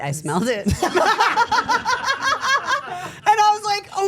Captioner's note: everyone laughing